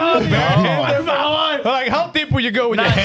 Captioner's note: speaking In Foreign Language